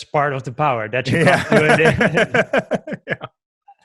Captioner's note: laughs